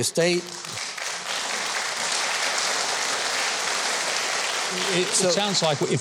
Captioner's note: audience applauding